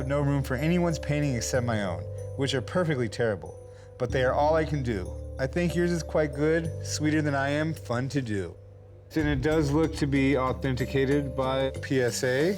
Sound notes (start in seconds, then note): none